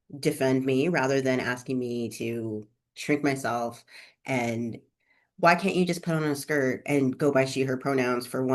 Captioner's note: mockingly